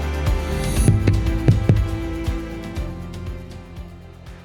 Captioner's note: heartbeat